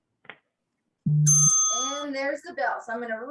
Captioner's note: bell rings